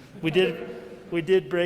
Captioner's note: audience chuckles